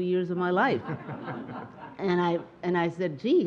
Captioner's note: audience laughing